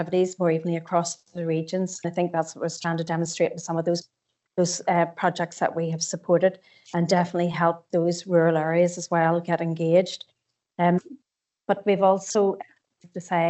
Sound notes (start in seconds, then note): 2.2 audio distorts 39.56